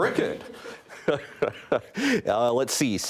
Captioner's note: laughs